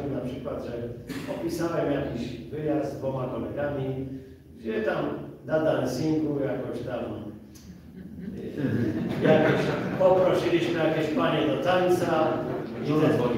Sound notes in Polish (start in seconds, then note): 7.8 śmiech z sali